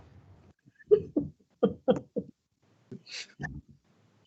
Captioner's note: chuckles